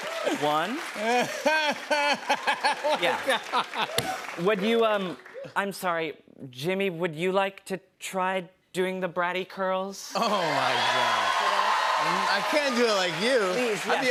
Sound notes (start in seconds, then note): 10.2 cheers and applause